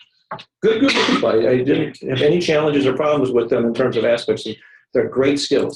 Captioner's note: cough